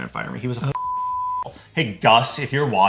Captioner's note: beep